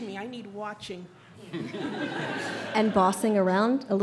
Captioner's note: audience laughs